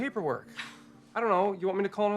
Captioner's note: Robin huffs